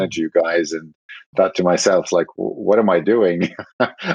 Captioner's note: laughing